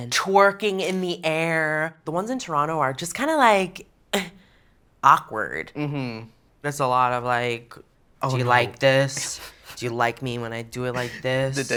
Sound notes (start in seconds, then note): 8.3 flatly